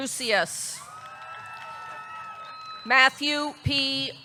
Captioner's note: audience clapping; audience cheering